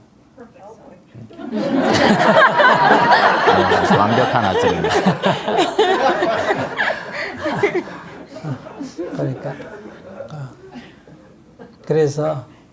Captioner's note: all Laughter